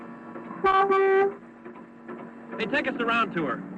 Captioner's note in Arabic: صوت بوق